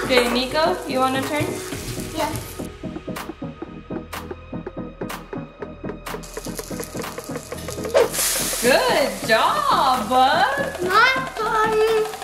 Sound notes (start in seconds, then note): 8.2 griddle sizzles